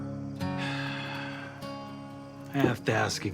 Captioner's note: Winston sighing